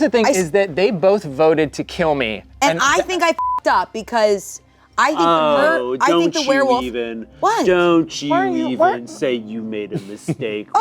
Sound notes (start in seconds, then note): 3.3 beep